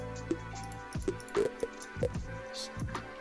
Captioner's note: items pop